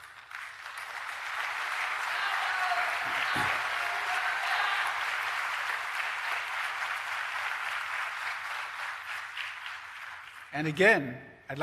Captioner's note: applause